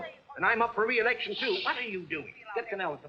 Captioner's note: shushing